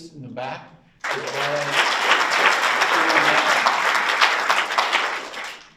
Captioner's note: audience applauds